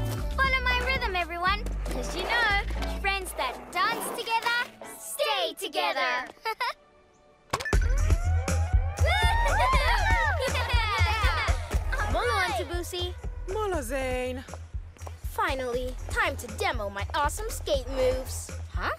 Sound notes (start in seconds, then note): 7.5 lively music; 8.9 cheering and laughter